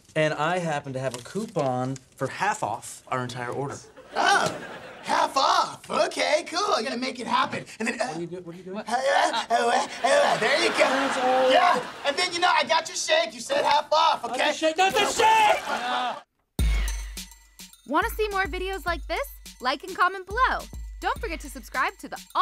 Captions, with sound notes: And I happen to have a coupon for half-off our entire order. Oh, half-off! OK, cool, I'm gonna make it happen. What are you doing? [grunting] There you go! Yeah, and then, you know, I got your shake. - You said half off, OK? - Not the shake, not the shake!